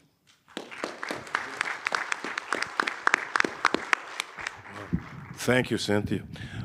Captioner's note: audience applauding